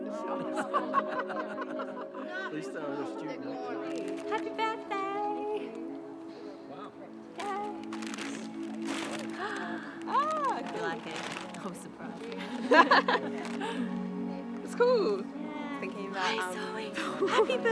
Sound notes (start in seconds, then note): 0.0 people laughing; 9.0 gasps; 12.4 women laughing